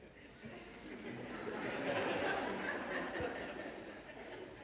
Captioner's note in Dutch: gelach